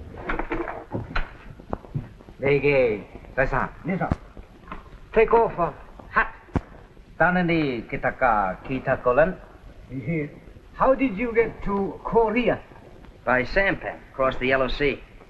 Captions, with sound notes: [ SPEAKING JAPANESE ] [ SPEAKING JAPANESE ] - How did you get to Korea? - By sampan, cross the Yellow Sea.